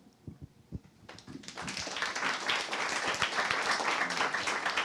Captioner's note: audience applauds